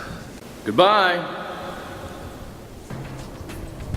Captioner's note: disembodied voice